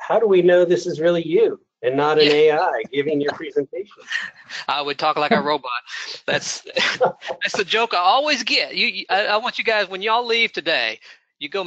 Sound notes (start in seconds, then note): 6.7 laughing